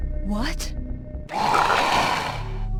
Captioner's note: growling